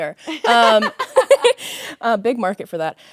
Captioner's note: both laughing